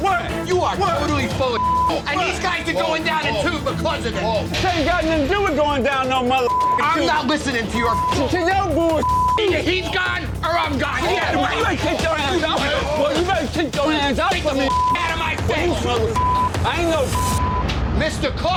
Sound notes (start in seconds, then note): 11.6 shouting